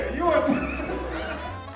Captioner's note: blows raspberry